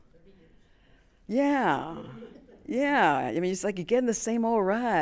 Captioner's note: audience murmurs